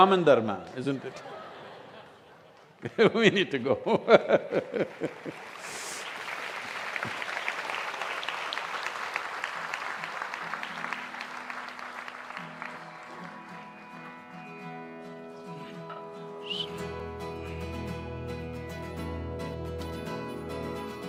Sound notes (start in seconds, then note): 0.8 laughter; 7.4 laughter/Applause